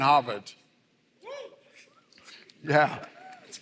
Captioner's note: applause